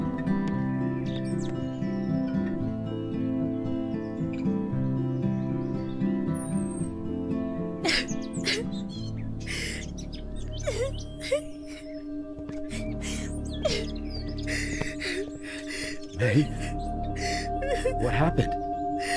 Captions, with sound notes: [May cries] May, what happened?